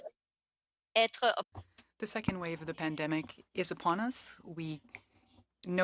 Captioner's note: speaking FRENCH